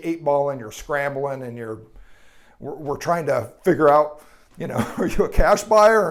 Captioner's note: chuckles